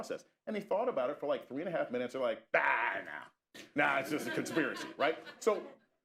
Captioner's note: laughter